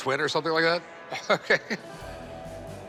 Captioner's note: chuckles